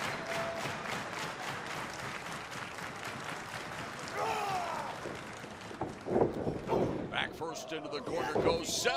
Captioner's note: crowd cheering